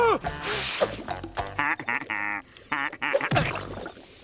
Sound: laughing

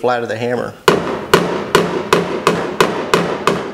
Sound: thuds

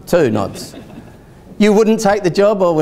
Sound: audience laughs

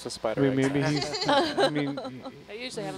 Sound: scientist laughing

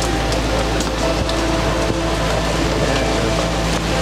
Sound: branches snapping

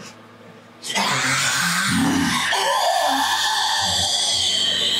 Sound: Rabia growls

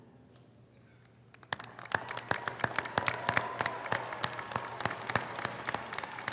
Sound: audience applauding; audience cheering

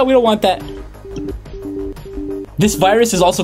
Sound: computer chiming

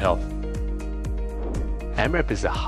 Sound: air whooshing

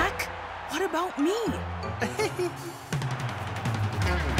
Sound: laughing nervously

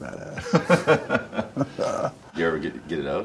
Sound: laughing

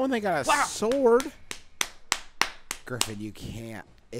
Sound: clapping

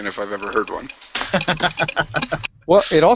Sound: laughs

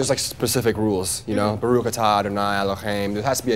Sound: speaks in foreign language

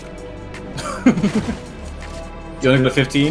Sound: laughing

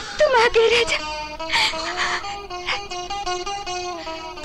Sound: sobbing

